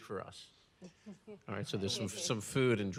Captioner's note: audience laughs